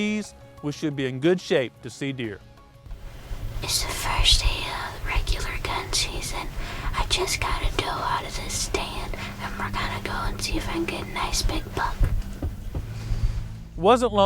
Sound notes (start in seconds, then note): 3.1 whispering